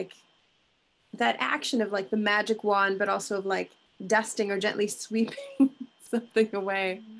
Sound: chuckling

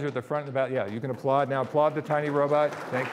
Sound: audience applauding

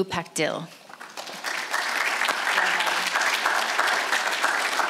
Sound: audience applauds

